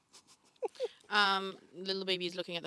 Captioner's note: chuckling